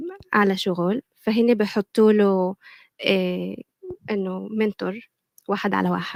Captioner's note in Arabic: لغة أجنبية